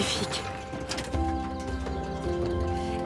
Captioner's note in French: gazouillis d'oiseaux